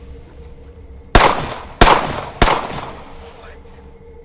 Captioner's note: gun firing